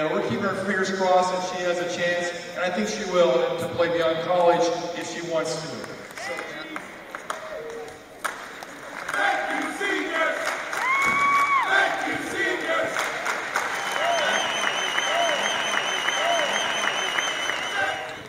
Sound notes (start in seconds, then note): 9.0 chant; 10.6 clap; 11.4 chant; 12.8 applause and whistling; 13.0 clap